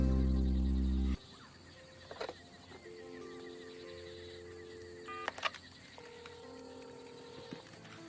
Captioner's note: yawns